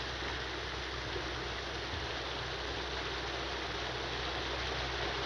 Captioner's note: rain pattering